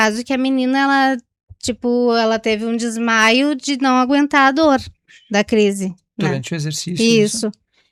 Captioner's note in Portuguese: limpando a garganta